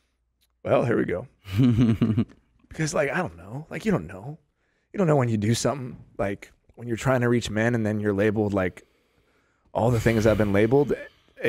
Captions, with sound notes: - Well here we go. (chuckles) - 'Cause like I don't know, like you don't know. You don't know when you do something like when you're trying to reach man, and then you're labeled all the things I've been labeled,